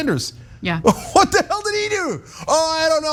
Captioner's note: laugh